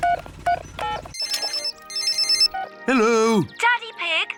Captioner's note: phone rings